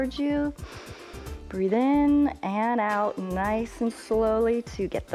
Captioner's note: inhales